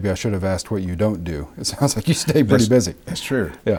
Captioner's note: laughing